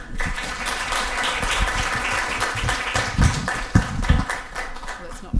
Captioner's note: audience applause can be heard